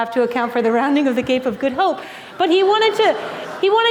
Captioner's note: laughter